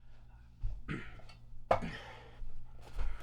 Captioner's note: clears throat